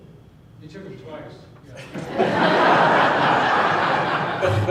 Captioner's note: laughing